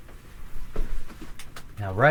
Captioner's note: footsteps shuffling